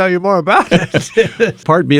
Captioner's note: laughing